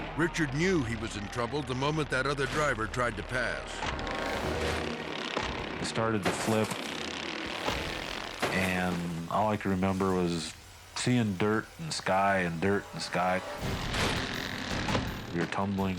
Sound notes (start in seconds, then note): 3.4 mowers buzzing; 3.4 suspenseful music; 6.9 mowers buzzing; 12.2 dramatic music; 14.5 mowers buzzing